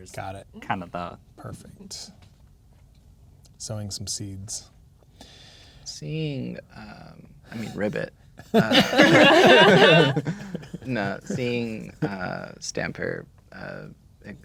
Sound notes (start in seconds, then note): 8.5 players laughing